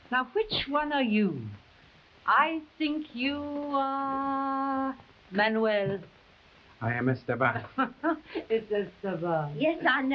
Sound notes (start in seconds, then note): 7.7 madre chuckling